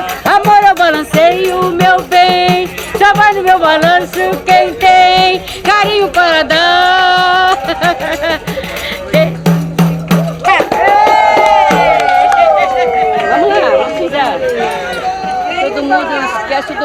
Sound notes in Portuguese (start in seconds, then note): 7.1 risos; 10.5 gritos animados, aplausos